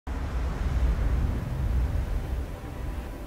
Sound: waves lapping

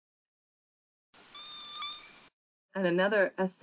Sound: whale whines

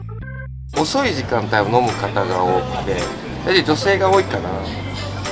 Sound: speaking in a foreign language

